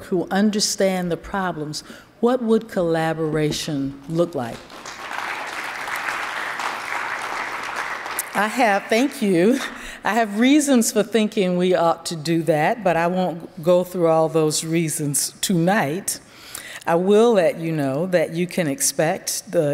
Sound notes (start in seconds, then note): 4.6 attendees applauding